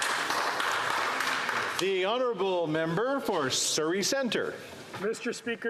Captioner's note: some Applause